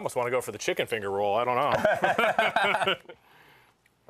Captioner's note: laughter